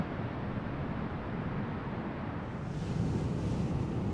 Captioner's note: sound of the sea